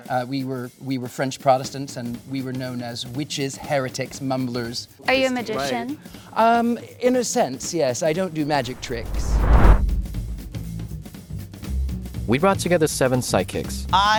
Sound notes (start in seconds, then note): 8.4 screen whooshing; 10.2 gentle upbeat jazz music